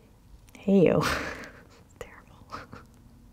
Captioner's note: laughing